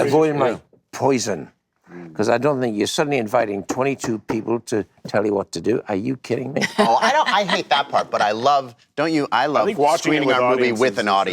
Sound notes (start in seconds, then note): 6.6 Amy laughs